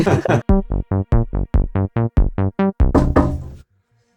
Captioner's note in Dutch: lachend